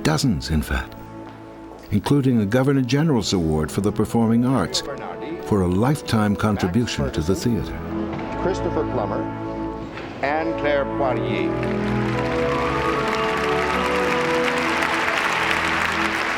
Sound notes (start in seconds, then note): 11.1 audience applauds